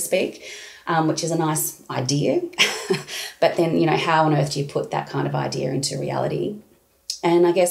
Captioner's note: laughing